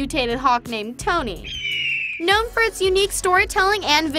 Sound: caw

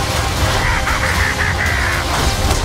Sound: laughing

